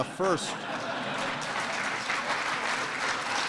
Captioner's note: applause